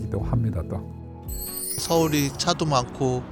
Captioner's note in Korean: 반짝이는 효과음